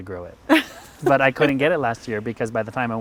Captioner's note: laughing